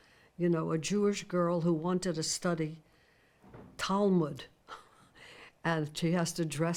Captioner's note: chuckles